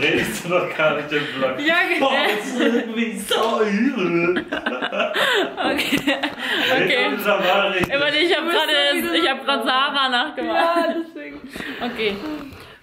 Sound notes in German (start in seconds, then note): 1.8 alle lachen